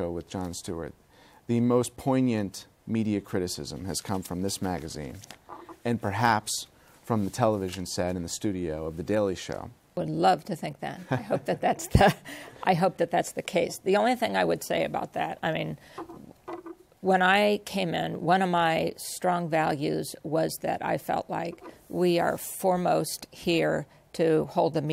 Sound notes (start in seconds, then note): 11.1 laughs